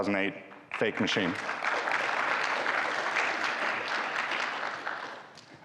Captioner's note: audience applauding